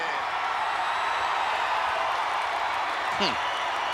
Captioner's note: audience cheering